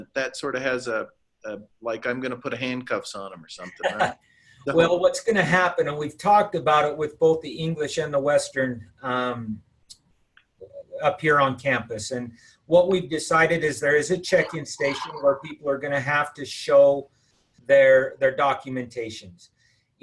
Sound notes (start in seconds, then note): 3.7 laughter